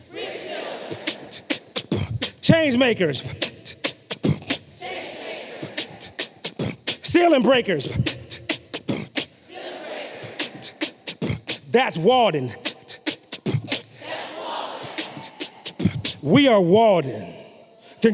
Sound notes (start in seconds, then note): 1.0 beatboxes